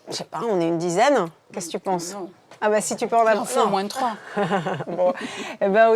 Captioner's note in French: rires